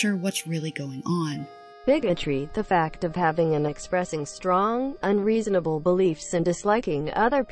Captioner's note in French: Voix robotique